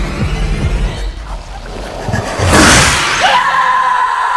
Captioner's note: tense strings rise; alien hisses; Naomi screams in terror